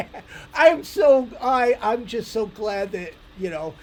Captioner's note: laughs